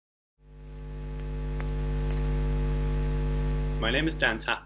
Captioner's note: electronic buzz